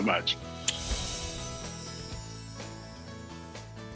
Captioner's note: chimes